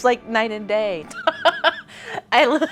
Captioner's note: woman laughs